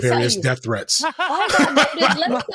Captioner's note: laughing